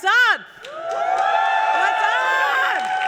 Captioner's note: cheers